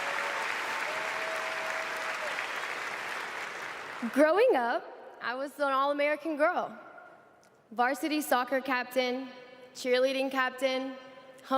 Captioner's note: applause